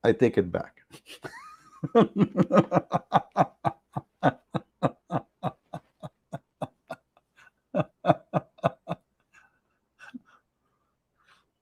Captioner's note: Ketawa